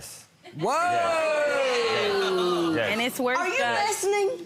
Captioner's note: audience jeers